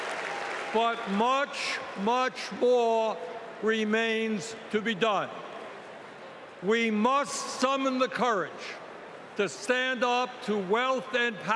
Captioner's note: cheering